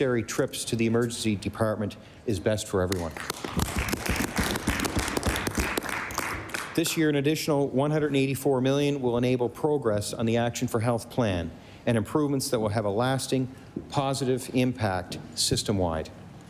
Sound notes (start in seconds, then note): 5.9 applause